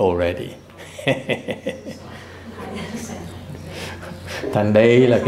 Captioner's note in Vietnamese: laughter